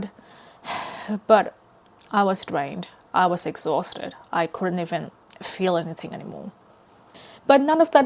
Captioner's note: sighs